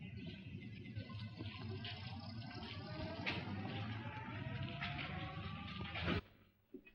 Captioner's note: vehicle rumbles away